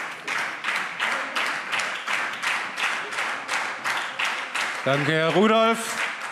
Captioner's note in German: Lebhafter Beifall SPD